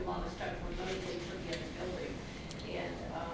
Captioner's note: softly talking off mic